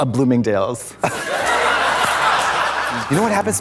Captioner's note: audience laughs